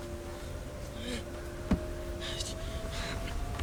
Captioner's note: groaning, Muttering